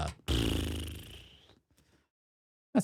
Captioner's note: blows Raspberry